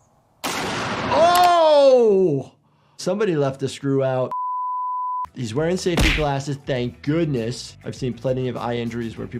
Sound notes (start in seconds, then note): 0.4 gunshot cracks; 4.3 production beep